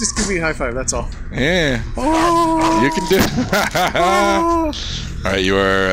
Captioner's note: laughing